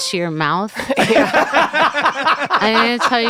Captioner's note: laughter